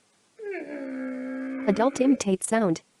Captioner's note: woman imitates engine revving